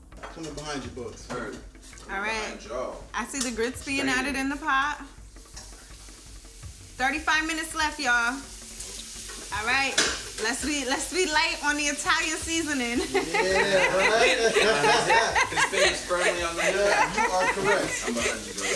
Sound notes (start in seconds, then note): 12.9 all laughing